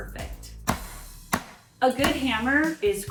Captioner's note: hammer slamming